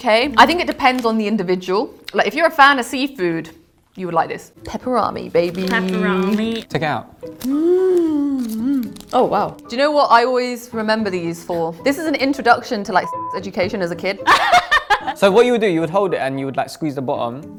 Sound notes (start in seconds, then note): 5.3 bag crinkles; 13.0 beep; 14.2 laughs